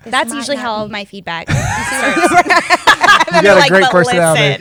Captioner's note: laughter